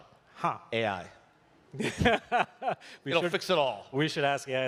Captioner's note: laughter